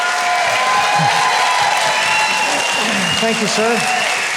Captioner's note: audience applauding